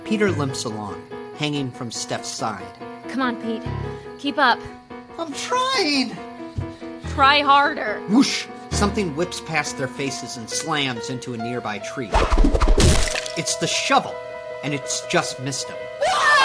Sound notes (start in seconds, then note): 12.1 shovel pounding